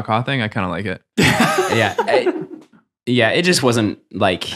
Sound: chuckle happily

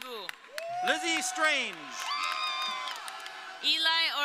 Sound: audience cheering

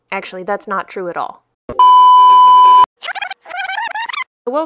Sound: emergency Broadcast Signal

